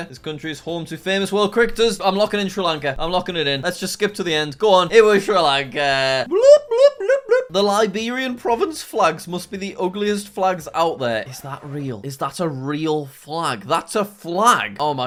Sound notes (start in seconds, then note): 11.2 record scratches